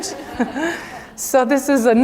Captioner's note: laugh